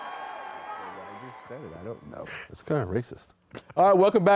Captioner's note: cheers